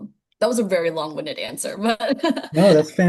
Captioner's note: laughing